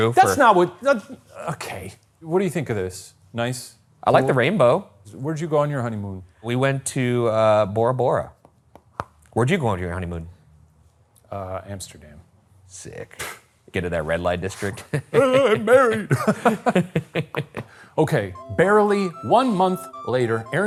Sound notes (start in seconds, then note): 8.4 pen tapping; 13.0 scoffing; 14.7 both laughing; 14.7 chuckling